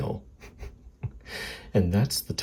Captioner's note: chuckling